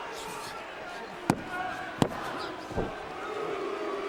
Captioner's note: crowd chattering continues; hand pounding; crowd booing